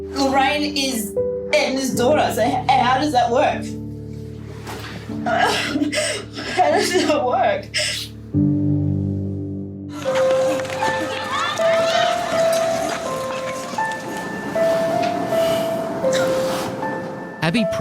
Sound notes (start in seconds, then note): 5.2 sobbing; 10.0 children yelling; 13.7 unsettling piano music